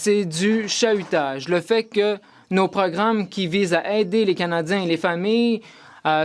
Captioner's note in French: voix de l'interprète